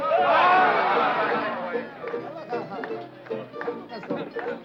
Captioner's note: everyone shouting